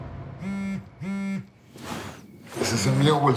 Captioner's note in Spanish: Zumbido del celular